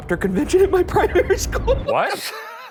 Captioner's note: laughing